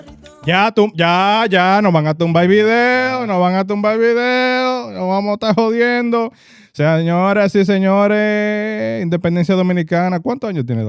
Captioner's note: speaking In Foreign Language